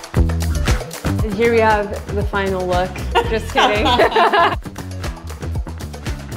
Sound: laughs

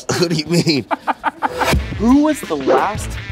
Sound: laughing

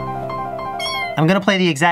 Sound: meow

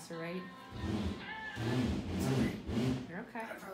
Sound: groaning

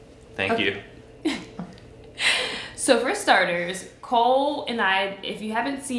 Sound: laughs

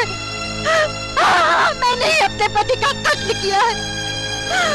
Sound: crying

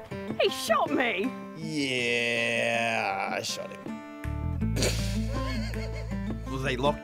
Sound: laughs

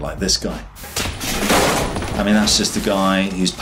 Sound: air whooshes; railing bangs

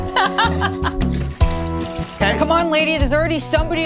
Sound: laughs

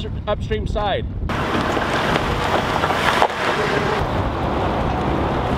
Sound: truck engine running

